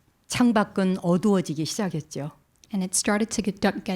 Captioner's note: speaking in Korean